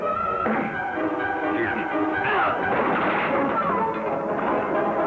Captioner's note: Jingo grunting